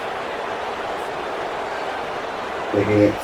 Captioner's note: crowd Noises